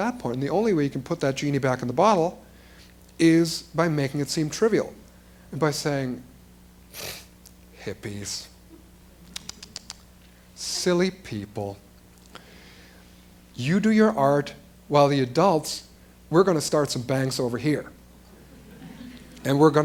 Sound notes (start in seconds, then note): 6.6 makes raspberry sound; 9.8 makes ticking sound